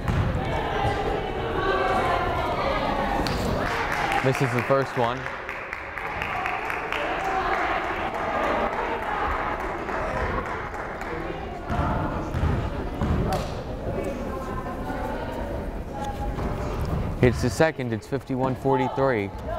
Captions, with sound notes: (crowd applauding) Misses the first one. (crowd chattering) Hits the second, it's 51-43.